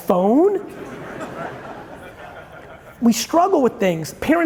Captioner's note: audience chuckling